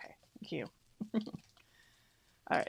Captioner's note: laughs